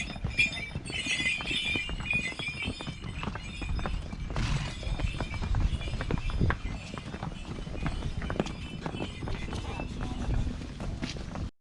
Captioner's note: mules departing